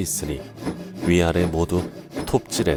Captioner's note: sawing sound